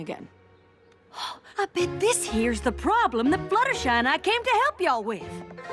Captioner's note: gasp